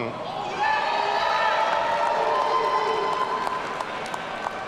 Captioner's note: audience cheering